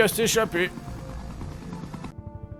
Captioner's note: helicopter sound